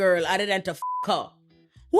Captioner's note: beep